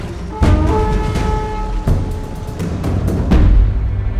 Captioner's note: war horns blowing